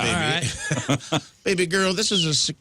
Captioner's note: laughing